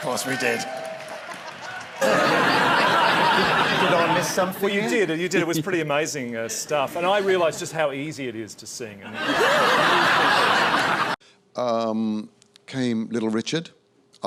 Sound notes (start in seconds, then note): 0.0 laughs; 4.0 cockney accent; 9.0 audience laughs